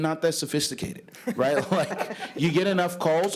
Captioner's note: laughter